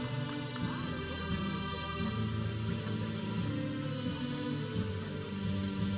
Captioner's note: audience chattering; processional music